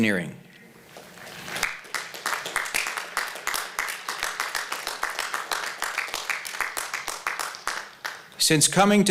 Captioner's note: applause